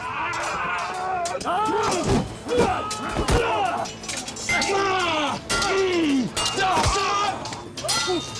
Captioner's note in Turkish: Dövüş sesleri